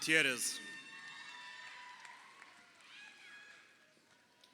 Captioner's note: crowd cheering